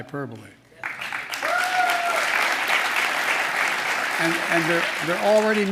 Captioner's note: applause